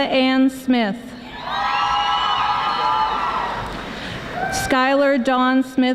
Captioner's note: audience applauding